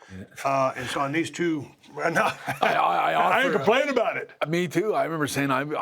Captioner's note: laugh